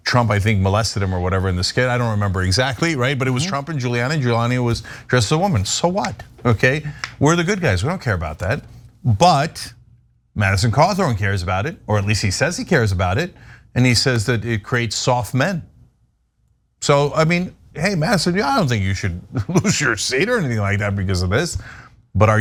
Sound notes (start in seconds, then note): 19.2 laugh